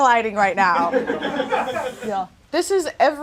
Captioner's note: audience laughs